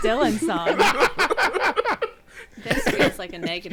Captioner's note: everyone laughing